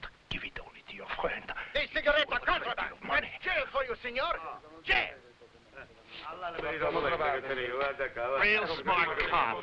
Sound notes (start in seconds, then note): 5.9 officers conversing in foreign language